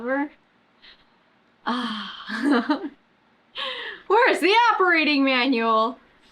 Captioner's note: laughs